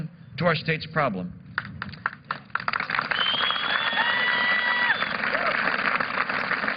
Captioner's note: applause